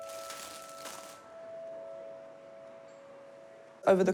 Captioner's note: plastic bag rustles